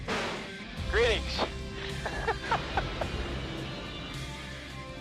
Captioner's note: laughing; upbeat music